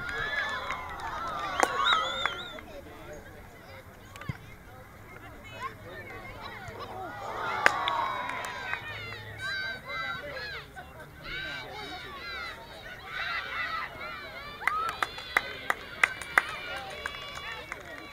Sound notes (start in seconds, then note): 0.0 crowd Cheering; 10.8 crowd Chanting; 14.6 crowd Clapping